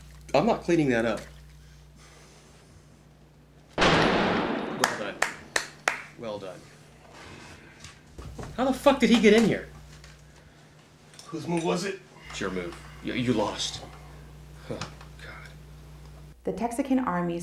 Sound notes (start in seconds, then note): 3.8 gunshot blasts; 6.5 clapping